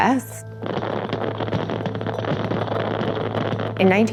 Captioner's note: fireworks